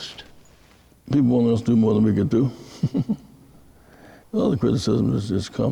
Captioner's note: chuckle